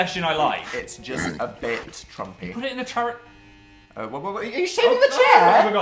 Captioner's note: buzzing